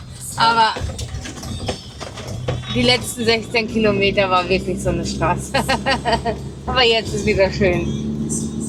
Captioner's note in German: gelächter